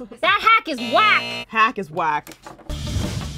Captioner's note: buzzing noise